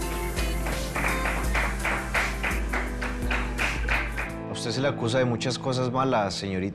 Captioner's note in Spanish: Aplausos